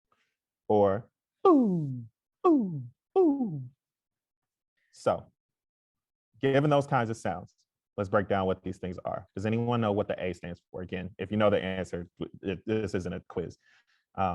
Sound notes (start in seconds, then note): 1.2 makes falling vocal sounds